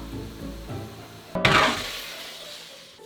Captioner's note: clank